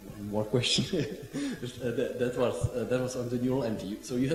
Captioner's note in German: lachen